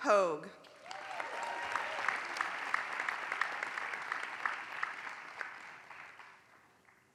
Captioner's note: applause